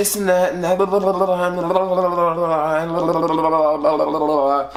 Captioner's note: making mouth noise